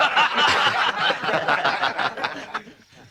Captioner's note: all laughing